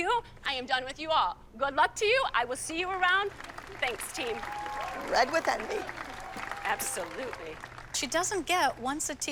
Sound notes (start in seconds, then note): 3.2 applause and cheering